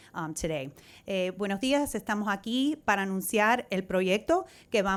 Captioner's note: speaking in Spanish